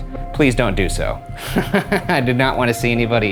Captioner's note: laughing